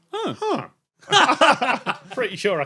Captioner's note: group laughing